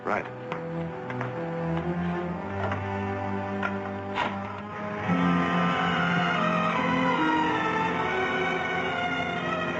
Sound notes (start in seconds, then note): 4.4 phone clicking